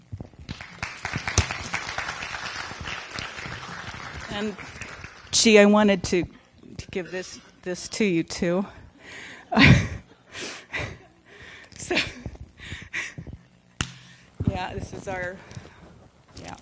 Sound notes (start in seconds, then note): 0.4 audience clapping; 9.4 laughs